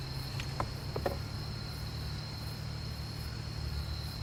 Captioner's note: insects chirping